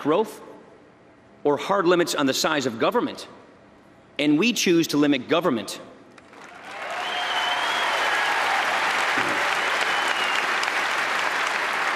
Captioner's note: applause